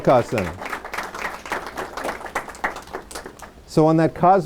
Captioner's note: applause